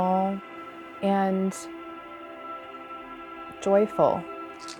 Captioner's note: spray can rattling